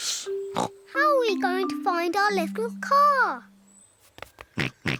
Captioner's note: snorts